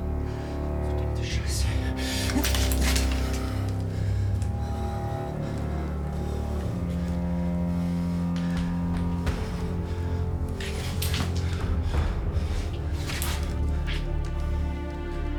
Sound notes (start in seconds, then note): 0.9 officer speaking German; 4.7 ominous music